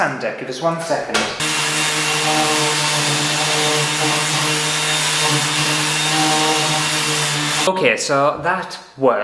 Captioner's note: sanding Sounds